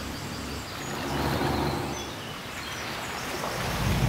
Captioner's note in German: Fluss rauscht; Bootsmotor brummt; Schiffsmotor brummt, Schiffshorn ertönt